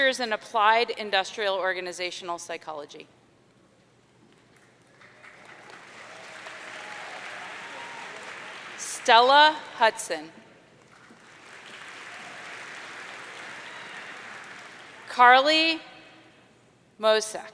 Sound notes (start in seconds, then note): 5.0 audience cheering; 10.8 audience applauding